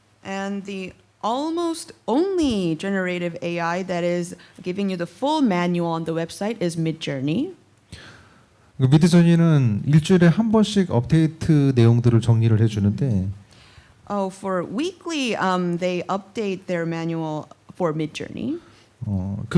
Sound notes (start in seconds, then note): 8.9 speaking korean